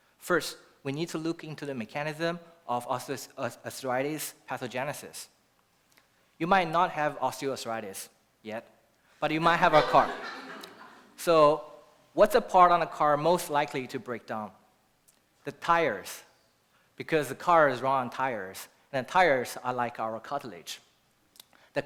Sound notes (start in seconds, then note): 9.4 laughter